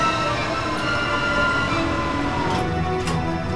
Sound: loud motor halts; motor starts up again

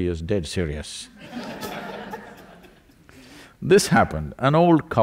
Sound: laughter

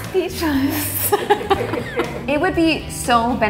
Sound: both laughing

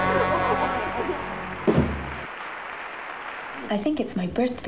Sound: applause

